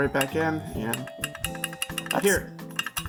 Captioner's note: clicking